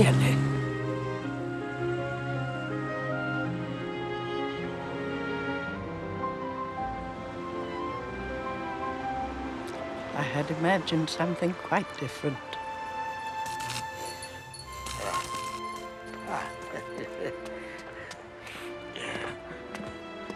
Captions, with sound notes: Oh, really! (light orchestral music) I had imagined something quite different. (sign zapping) - Ah, ah. (chuckling)